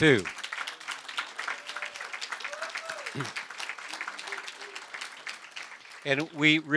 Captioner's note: applause